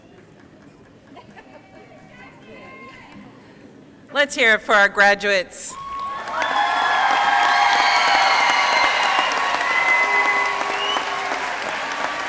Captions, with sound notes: - Let's hear it for our graduates. (crowd cheering and applauding)